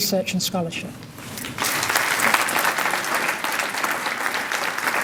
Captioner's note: applause